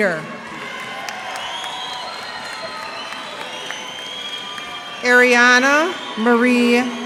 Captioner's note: cheers and applause